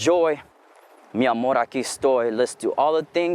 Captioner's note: speaking in foreign language